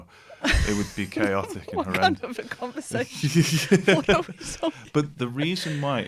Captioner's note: laughter